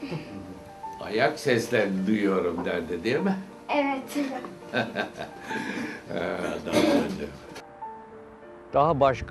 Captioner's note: laughs